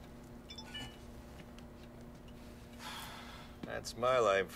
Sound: phone rings

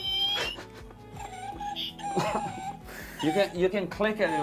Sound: dog talking

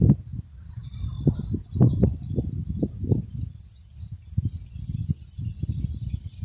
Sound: birds chirping

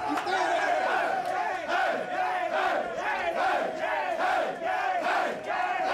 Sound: men chanting and cheering

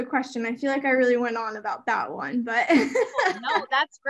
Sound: laughs

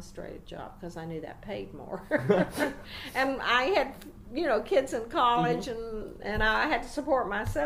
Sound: laugh

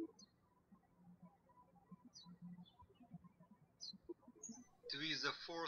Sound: birds chirping

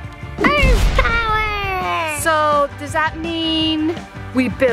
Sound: crashing

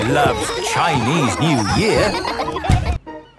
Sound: laughter

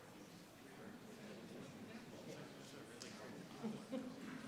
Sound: people chattering

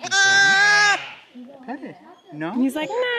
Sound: sheep scream

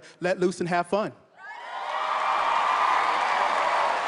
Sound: cheers and applause

